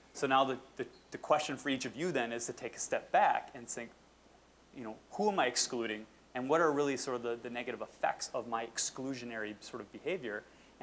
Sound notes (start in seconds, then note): none